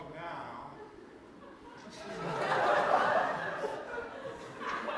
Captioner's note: audience laughter